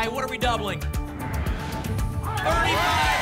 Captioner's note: whoosh